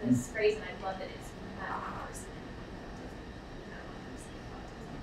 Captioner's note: speaking away from mic